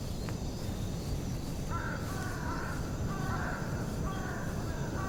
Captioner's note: crows cawing